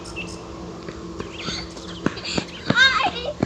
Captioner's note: footsteps patter